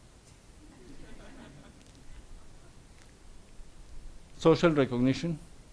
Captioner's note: audience laughs